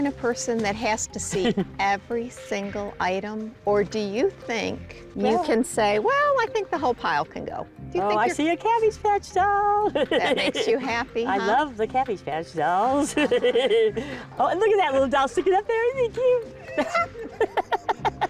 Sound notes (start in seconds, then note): 13.0 laughs; 16.6 laughs